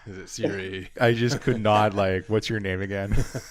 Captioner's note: laughs